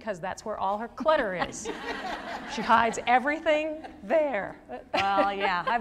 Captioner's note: laughter